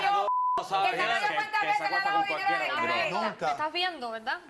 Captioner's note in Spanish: Bip